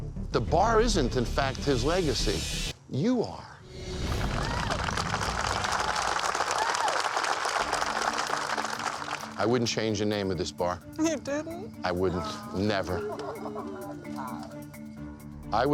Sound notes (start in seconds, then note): 4.2 crowd applauding; 13.6 energetic string music